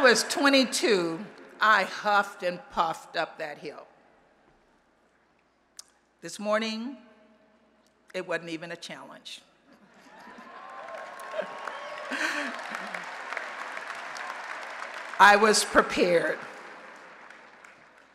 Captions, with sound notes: When I was 22, I huffed and puffed up that hill. This morning, it wasn't even a challenge. [ Applause and Cheering ] I was prepared.